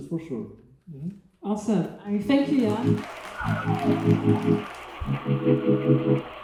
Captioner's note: claps